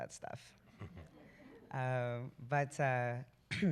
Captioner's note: laughter